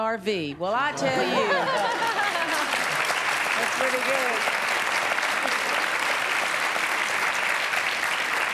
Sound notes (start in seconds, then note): 1.8 applause